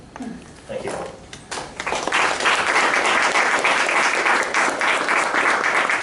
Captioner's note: applause